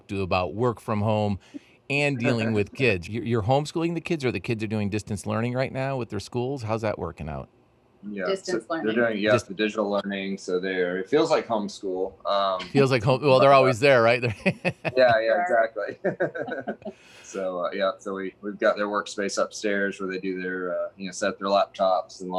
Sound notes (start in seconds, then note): 12.3 laughs